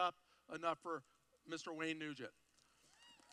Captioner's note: applause